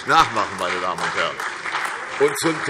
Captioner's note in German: Beifall CDU und vereinzelt AfD